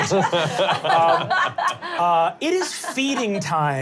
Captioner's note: laughing